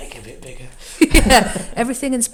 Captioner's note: both laugh